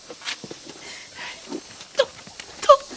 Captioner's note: heavy breathing